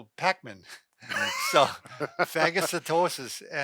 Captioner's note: both laugh